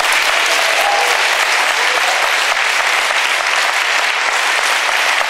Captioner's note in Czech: potlesk